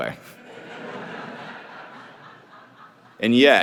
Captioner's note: audience laughing